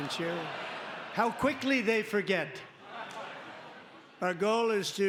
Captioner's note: laughter